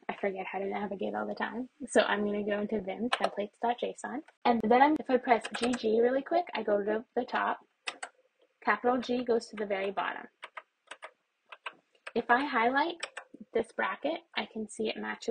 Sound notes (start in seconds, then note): 10.8 more keys pressed; 10.8 keyboard presses